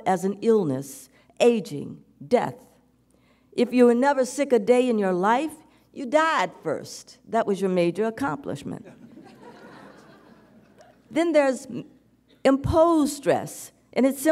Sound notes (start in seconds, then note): 8.9 audience giggles